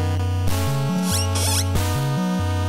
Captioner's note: squeak